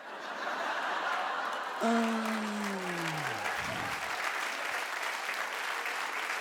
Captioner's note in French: le public rit et applaudit